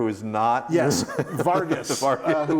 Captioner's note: laughs